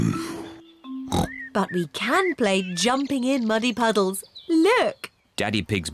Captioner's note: oinks